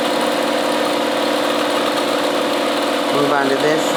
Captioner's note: machine whirring